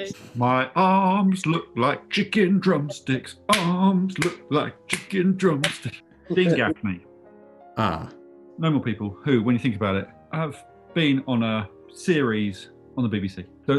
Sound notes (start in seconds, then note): 3.5 claps